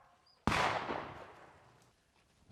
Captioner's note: gun shots